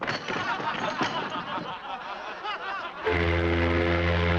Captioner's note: men laughing